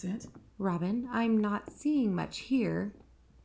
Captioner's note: hushed